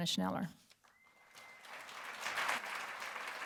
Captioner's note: applause